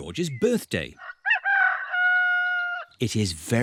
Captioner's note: roster crows